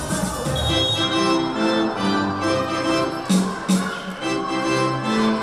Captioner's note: whistle blowing; upbeat music